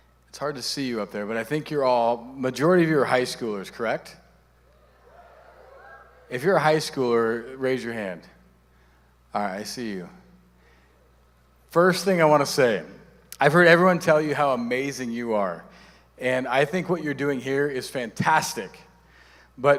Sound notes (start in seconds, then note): 4.6 audience cheering